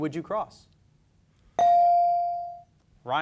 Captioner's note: beep